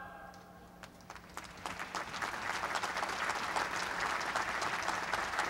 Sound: applause

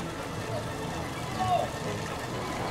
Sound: screaming

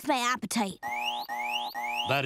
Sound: alarm buzzing

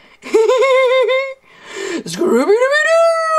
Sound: laughs

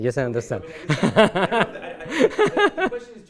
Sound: laughter

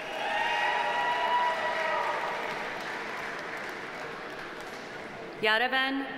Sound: audience cheering; audience applauding

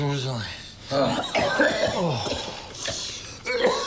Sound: coughs

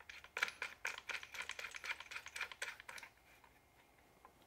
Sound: screws rattling

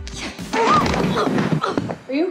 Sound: falling

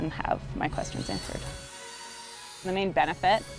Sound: electric sawing

